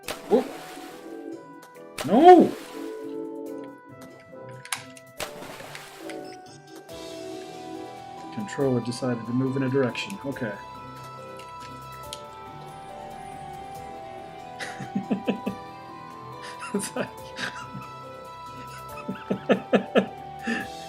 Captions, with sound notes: Whoop— Noo! Controller decided to move in a direction. Okay. [laughs] [laughing] It's like... [laughs]